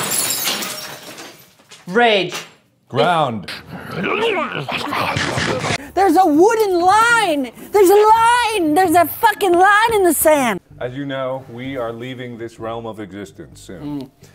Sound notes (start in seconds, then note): 3.9 minecraft eating noise; 13.3 hums in agreement